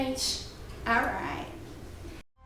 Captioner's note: in English